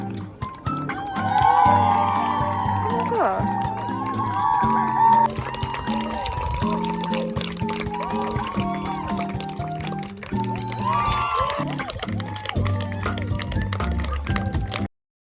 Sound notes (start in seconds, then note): 1.6 cheering